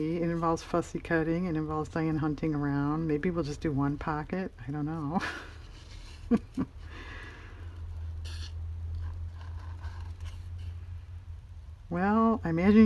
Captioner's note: laughs